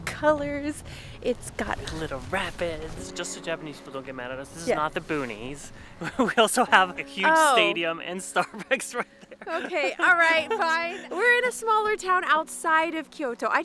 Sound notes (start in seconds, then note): 8.3 laughs